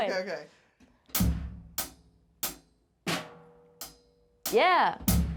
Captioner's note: drumstick tapping